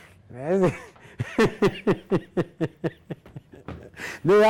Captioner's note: laughing